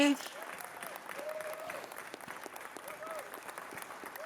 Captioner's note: applause